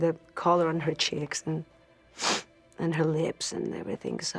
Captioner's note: sniffs